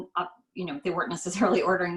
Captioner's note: laughs